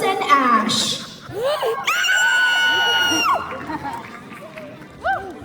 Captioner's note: proud cosparent scream, audience applause